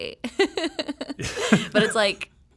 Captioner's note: laughing